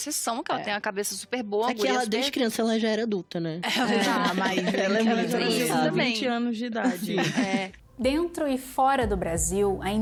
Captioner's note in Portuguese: risos